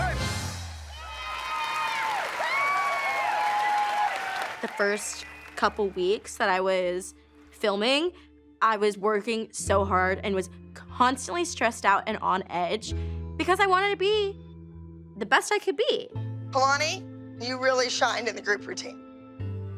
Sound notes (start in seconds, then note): 0.0 song ends; 1.6 cheers and applause